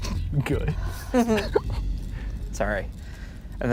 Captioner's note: laughs